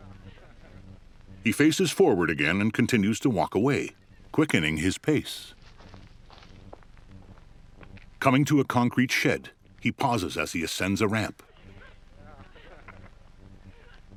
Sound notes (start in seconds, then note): 5.5 soft footfalls; 10.2 distant laughter